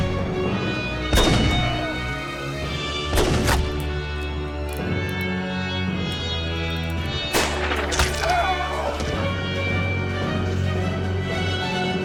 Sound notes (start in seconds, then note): 8.2 Jed screams